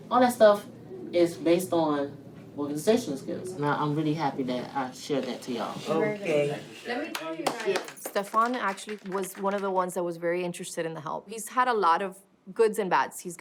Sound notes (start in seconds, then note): 7.0 all clapping